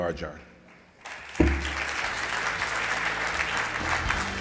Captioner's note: audience clapping